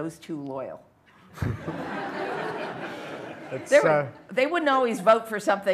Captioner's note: laughter